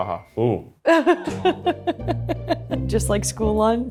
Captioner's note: laughing